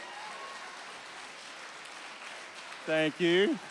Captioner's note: applause continues